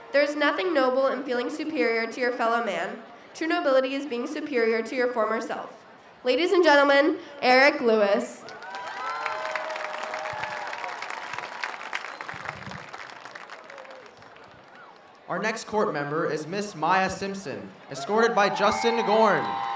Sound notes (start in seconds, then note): 8.4 audience cheers